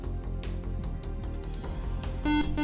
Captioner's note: beep